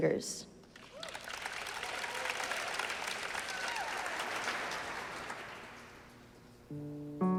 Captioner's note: applause